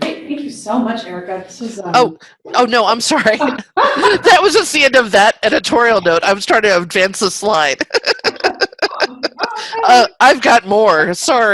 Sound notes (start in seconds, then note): 3.3 chuckles; 3.3 laughing; 7.6 laughing